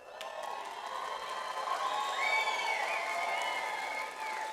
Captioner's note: audience applauds